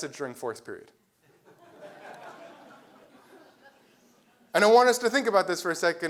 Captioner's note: laugh